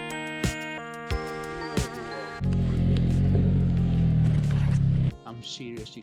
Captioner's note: vehicle engine